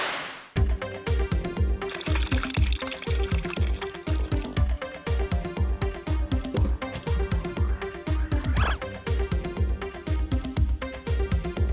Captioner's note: hockey puck slapshotted